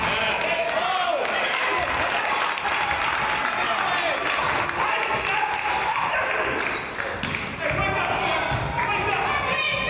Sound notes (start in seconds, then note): 0.1 claps; 1.7 crowd applauds; 5.7 coaches yell